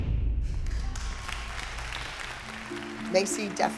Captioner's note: applause